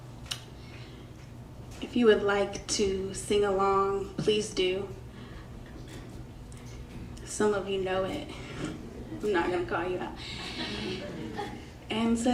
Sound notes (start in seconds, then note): 10.2 crowd chuckles; 10.2 crowd laughs